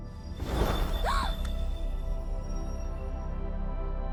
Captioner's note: whoosh; gasps